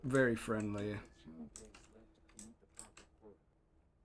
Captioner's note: deep voice over intercom